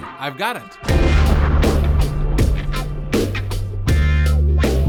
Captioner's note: explosion